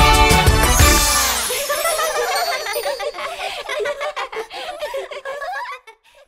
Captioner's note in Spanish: Risas